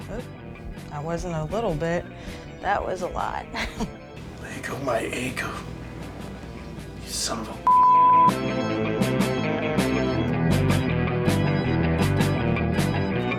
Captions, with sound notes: - Oh, that wasn't a little bit, that was a lot. (laughs) - Leggo my eggo, you son of a (beep) (intense music)